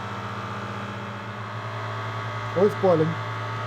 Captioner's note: vacuum chamber whirring